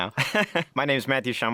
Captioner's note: laughing